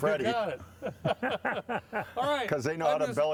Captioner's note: laughing